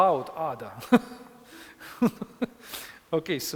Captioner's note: instructor laughing